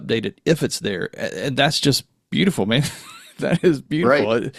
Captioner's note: laughs